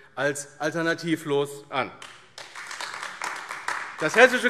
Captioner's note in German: Beifall AfD